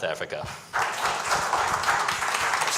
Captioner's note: clapping